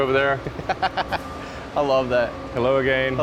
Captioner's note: laughs